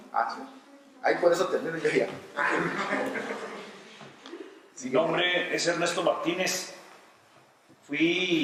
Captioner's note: laughter